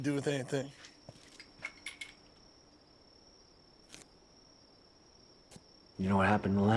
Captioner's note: crickets chirping